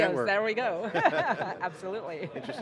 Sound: laughing

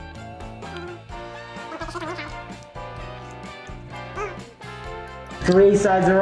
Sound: speaking in fast forward

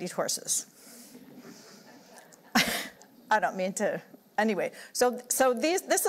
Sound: laughter

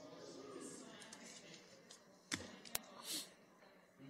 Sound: chatter

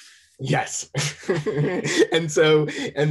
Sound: laughs

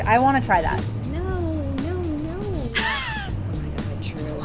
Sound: laughs

